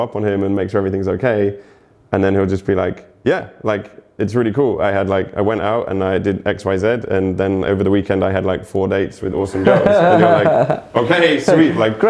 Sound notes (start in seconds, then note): 9.5 laughs